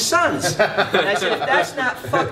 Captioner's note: laughter